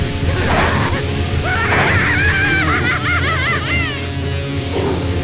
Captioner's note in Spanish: Se Ríe